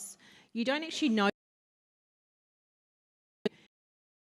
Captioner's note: audio cut